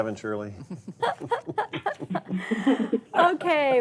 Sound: laughing

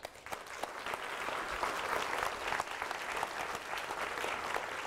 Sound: audience applauding

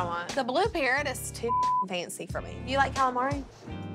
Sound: beep

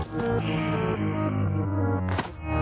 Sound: Bat murmurs

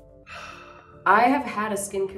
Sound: gentle music; Hyram sighing

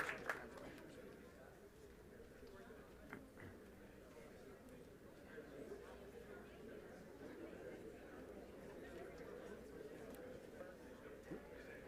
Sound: applause; group chatter

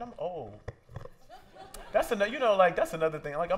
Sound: laughter

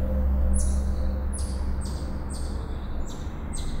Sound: birds chirping

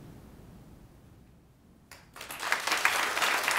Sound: ^applause^

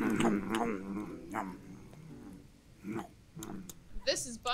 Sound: audibly chews on chicken; still audibly chewin' on that chicken

